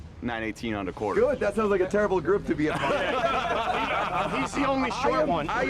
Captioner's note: laughter